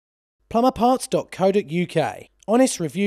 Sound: voiceover

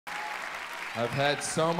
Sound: audience applauds

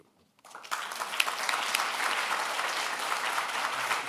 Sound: applause

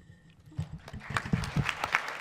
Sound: applause

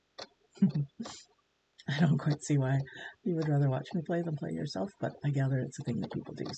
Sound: laughs

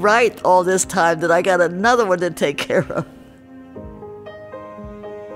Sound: laughs

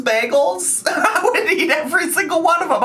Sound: laughing

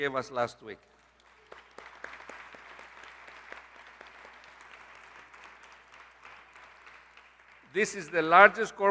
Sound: applause

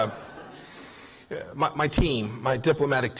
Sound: laughter

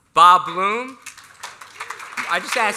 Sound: applause

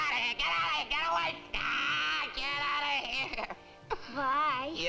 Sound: yells; sobs

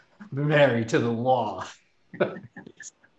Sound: laughs

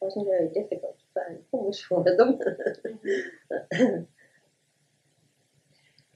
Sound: laughter

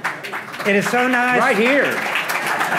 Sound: audience applauding

